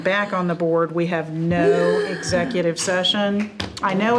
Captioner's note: gasping